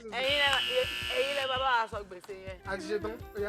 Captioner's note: buzzer pressed